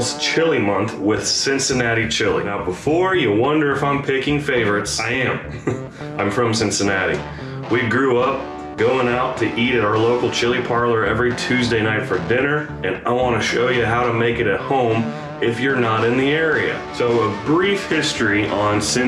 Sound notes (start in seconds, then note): 5.3 chuckles